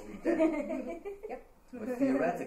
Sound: all laughing

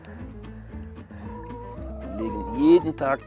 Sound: low cackling

